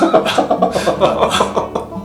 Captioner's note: laughs